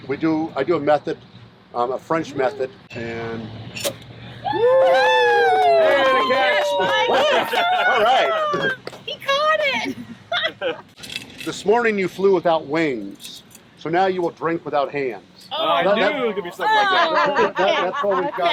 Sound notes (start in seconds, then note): 4.4 crowd cheering